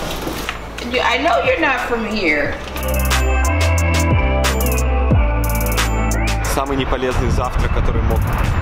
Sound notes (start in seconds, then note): 3.1 cool vibe music; 3.1 speaking in foreign language